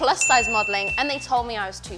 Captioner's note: bell rings